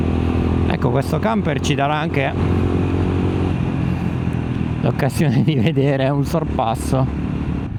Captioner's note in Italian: sbuffare